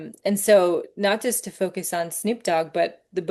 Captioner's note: none